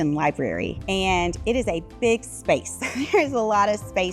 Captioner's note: laughs